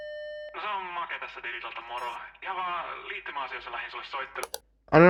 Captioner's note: distorted voice